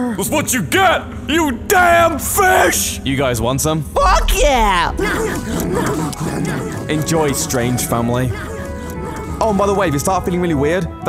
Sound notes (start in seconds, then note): 5.0 intense slobberfest